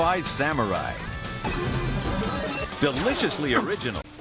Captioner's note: intense laser noises